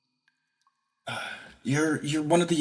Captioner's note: Arkat Sigh